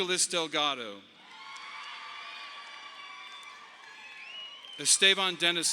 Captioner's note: audience applauding